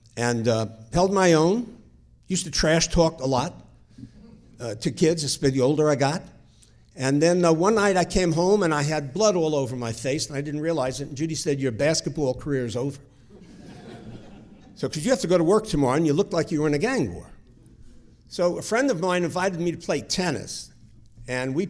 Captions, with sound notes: and held my own. Used to trash talk a lot to kids the older I got, and then one night I came home, and I had blood all over my face, and I didn't realize it, and Judy said your basketball career's over. (audience chuckling) 'Cause you have to go to work tomorrow, and you look like you were in a gang war. So a friend of mine invited me to play tennis,